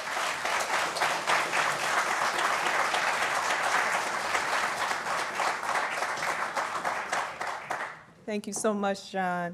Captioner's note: applause